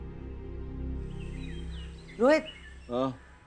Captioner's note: Birds chirping